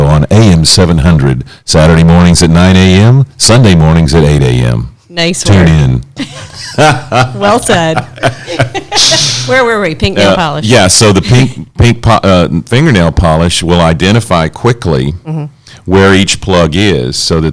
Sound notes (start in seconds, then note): 6.2 laughs